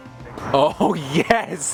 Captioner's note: voiceover